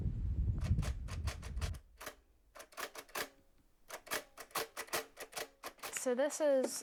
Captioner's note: sound of a brailler